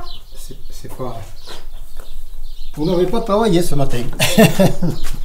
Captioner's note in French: rires